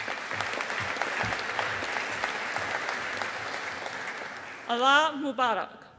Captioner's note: audience applauding